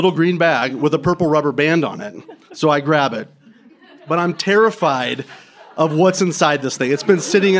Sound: laughter

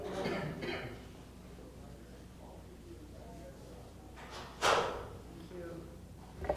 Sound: coughing; door closing

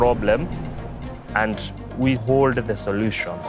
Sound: whoosh of blades

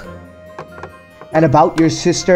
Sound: scoffs

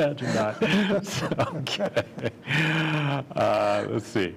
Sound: laughter

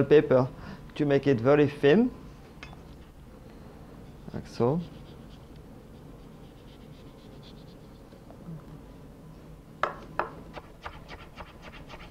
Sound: cutting sounds

